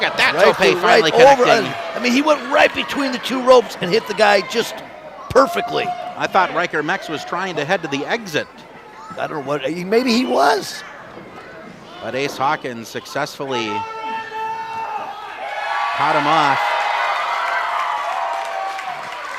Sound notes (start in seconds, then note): 15.4 audience cheers